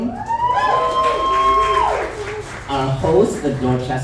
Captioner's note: audience applauds